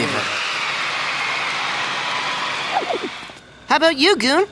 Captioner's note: cheering